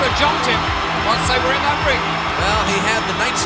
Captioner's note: audience cheering